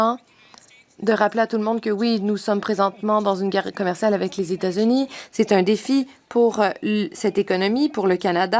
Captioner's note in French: voix de l'interprète